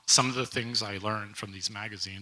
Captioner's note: none